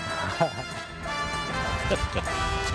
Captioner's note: laughter